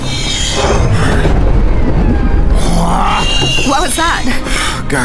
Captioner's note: sub grumbling